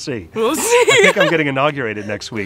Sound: laughs

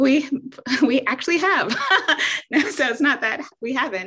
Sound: laughs

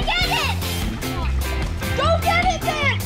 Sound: yells

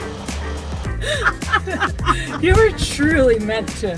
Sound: laughing

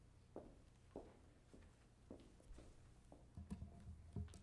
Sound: heels clicking

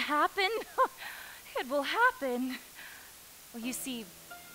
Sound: laughs

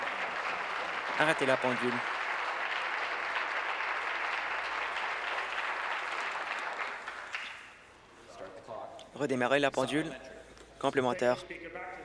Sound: applause

